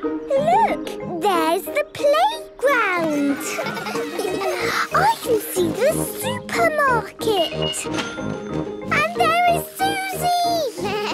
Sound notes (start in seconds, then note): 3.0 children laughing; 7.8 cash register dinging